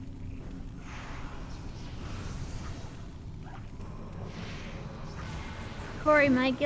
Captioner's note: roaring